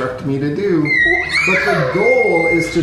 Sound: yelling

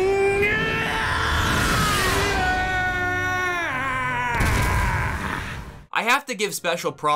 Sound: screaming

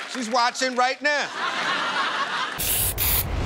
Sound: laughter

